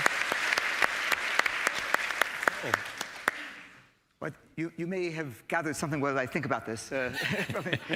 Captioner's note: applause